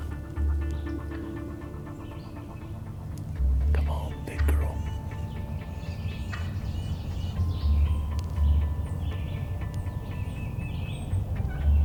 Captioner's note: whispering